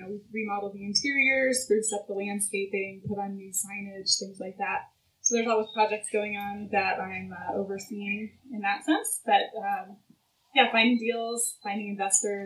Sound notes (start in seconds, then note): none